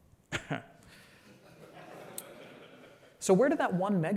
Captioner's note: laughter